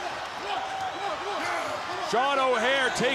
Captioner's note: crowd chatter